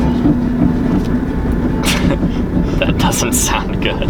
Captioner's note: engine grumbling